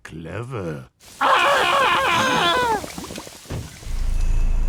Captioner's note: Fat Tony screams and gargles; ominous drone